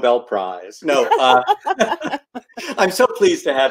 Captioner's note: laughs